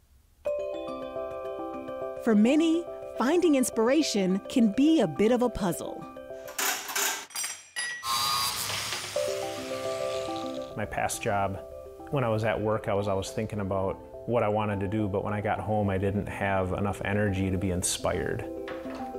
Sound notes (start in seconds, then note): 0.4 soft rhythmic music; 6.5 pulley rattling; 8.3 junk clinking